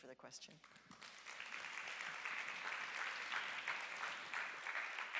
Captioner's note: audience applauds